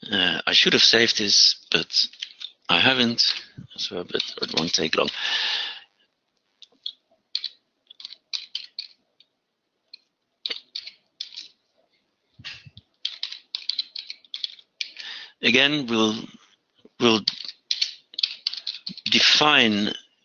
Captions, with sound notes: I should have saved this but I haven't, but it won't take long. (typing) Again, we'll define